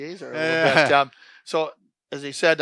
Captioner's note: laughs